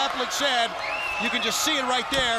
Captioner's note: crowd cheering